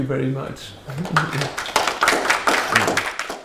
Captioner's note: applause